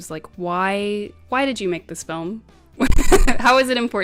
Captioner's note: giggles